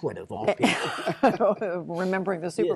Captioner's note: laughter